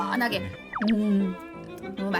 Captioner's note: gulp